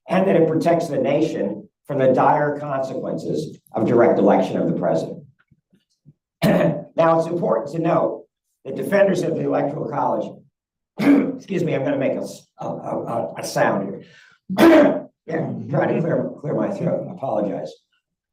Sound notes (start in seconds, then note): 11.0 coughs; 14.5 coughs